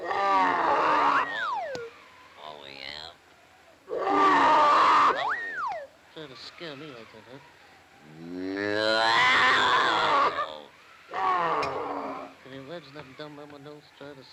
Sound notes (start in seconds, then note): 0.0 lions roar; 1.2 hat whistles; 3.8 lions roar; 5.1 hat whistles; 8.1 Popeye roars; 8.3 lions whimper; 11.0 lions grumble